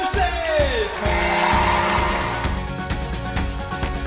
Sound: audience applauds; upbeat music

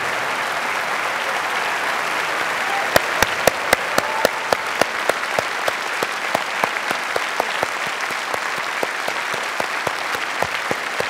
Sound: applause

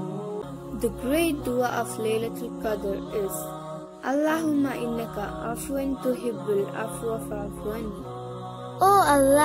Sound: reciting dua

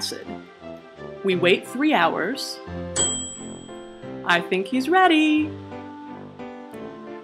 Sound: ding

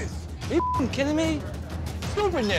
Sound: beep

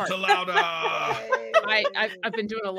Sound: all laughing

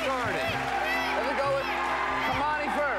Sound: classmates shouting "me!"

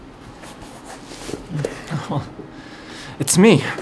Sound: exhales

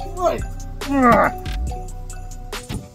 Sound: Scorpion Grunts

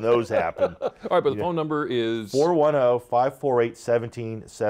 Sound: laughter

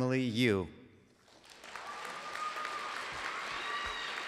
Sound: applause

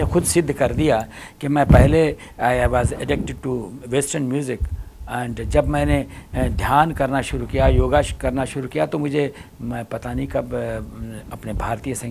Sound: speaks in Hindi – not transcribed; speaks in Hindi – not transcribed

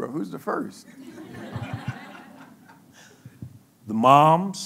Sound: laughing

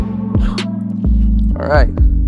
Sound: exhales sharply

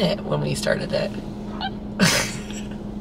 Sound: both laughing

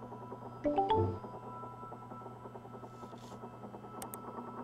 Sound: electronic chiming

